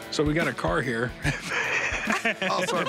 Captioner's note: laughter